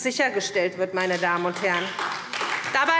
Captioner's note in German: Beifall SPD